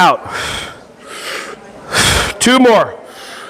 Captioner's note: everyone breathing in and out